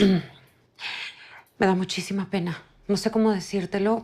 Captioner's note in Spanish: Carraspeo